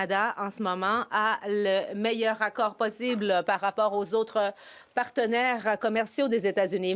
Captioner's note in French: voix de l'interprète